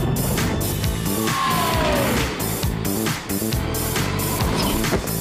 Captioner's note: screaming